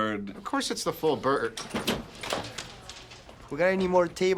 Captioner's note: door opens